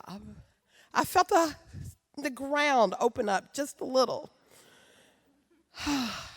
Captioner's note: sighs